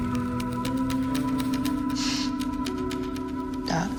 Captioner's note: sniffing